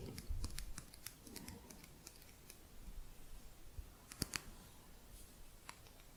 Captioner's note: softer tapping